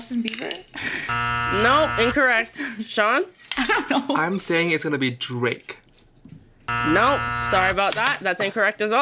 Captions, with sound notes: -Was it Justin Bieber? [buzzer sounds] -No, incorrect. Sean? -I'm saying it's gonna be Drake. [buzzer sounds] -No, sorry about that.